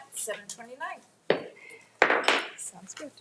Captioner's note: gavel thudding